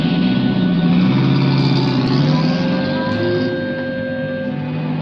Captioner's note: engine rumbles